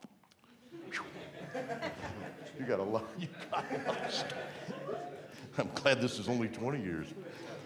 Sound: laughter

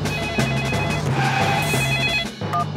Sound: beeping; phone ringing

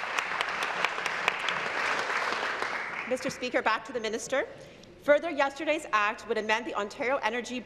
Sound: applause

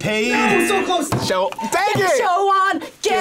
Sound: buzzer rings

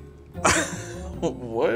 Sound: laughs

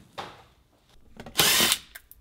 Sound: battery-operated drill

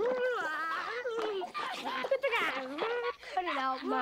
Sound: laughs

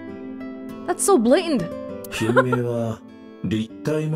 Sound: chuckles

